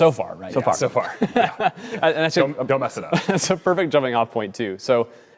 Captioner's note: laughter